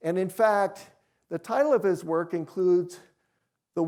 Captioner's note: none